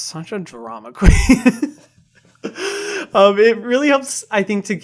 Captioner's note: laughs